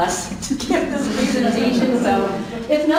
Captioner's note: laughing